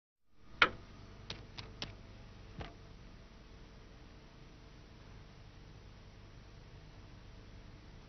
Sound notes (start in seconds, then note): 1.3 pecking